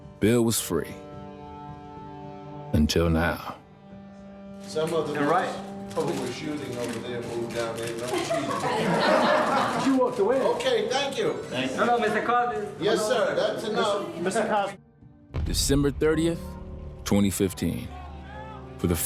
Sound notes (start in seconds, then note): 7.6 people laugh